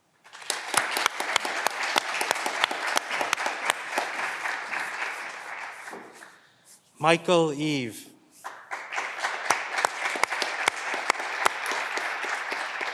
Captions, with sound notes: Michael Eve. (clapping continues)